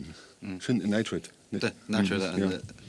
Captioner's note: speaking English